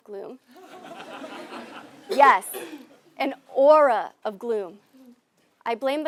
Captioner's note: laugh